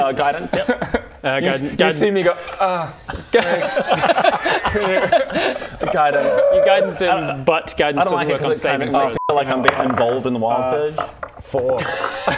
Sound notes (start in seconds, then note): 3.2 pitying laughs